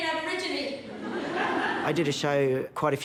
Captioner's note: laughter